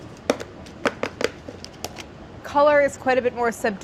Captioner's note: seasonings rustling; container tapping